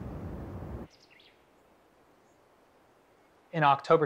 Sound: pájaros piando

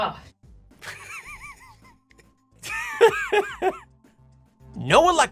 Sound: laughing

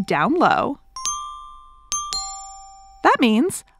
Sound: ding ding ding ding dong

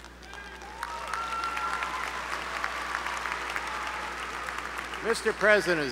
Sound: applause

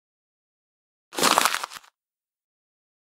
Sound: sound of paper

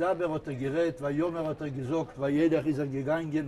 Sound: in Hebrew

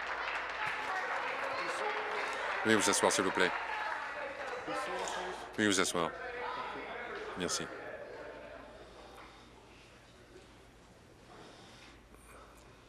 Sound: applause

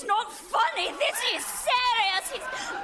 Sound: laughter

